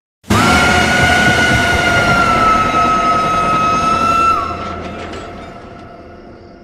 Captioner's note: screaming